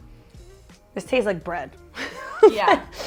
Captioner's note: laughs